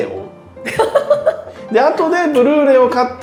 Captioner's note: laughing